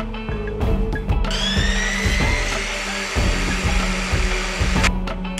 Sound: miter saw whirring

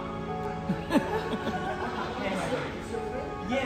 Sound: laughter

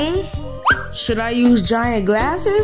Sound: screen whistles

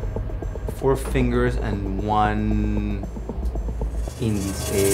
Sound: speaking in foreign language

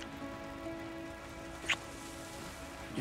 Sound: kissing

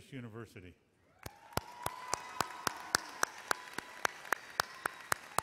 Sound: audience cheers and applauds

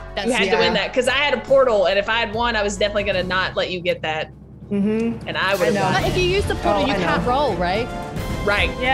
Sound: laugh

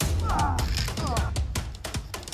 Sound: grunts

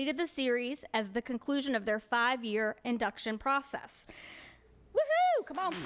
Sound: applause

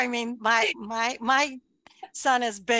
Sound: chuckles

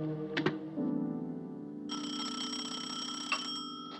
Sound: phone Ringing

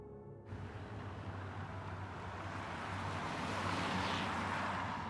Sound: car engine running

